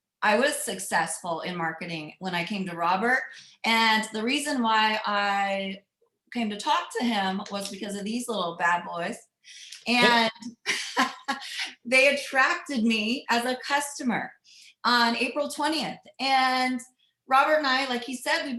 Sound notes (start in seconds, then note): 10.0 chuckling; 10.0 laughs